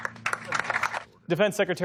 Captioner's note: applause